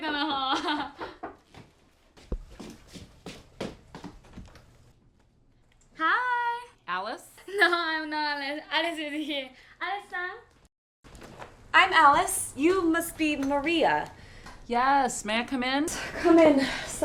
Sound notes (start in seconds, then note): 0.0 females converse in a foreign language; 0.9 knocking at door; 1.2 footsteps shuffling